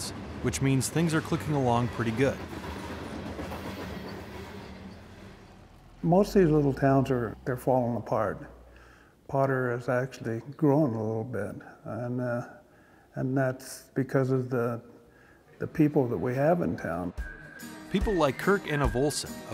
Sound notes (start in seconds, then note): 3.5 train wheels click clacking